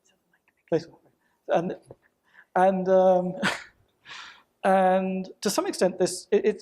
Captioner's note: laughs